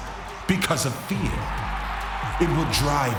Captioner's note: crowd cheers louder